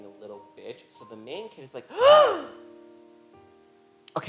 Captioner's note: gasp